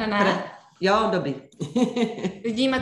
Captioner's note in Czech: smích